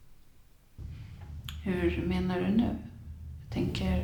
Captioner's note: rumbling from the next room